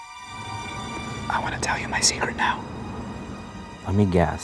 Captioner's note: suspenseful music; whispering